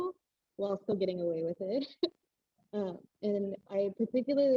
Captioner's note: laughs